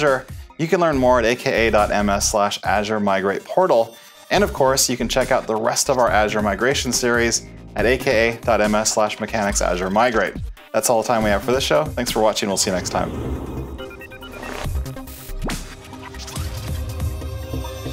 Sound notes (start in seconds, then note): 12.4 air whooshing; 15.1 upbeat music